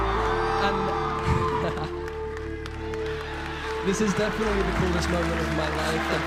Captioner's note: applause; laughs